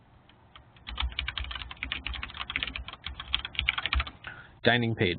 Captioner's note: keyboard clicking